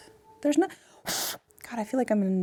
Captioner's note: blowing